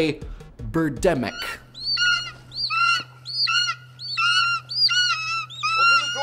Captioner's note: squawking birds